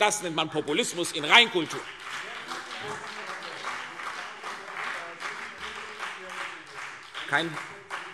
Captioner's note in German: Beifall CDU und BÜNDNIS 90/DIE GRÜNEN